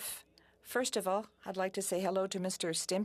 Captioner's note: speaking French